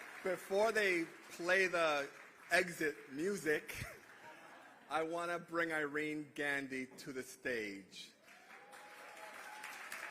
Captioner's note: applause